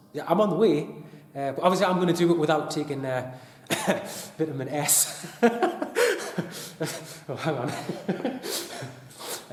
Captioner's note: laughing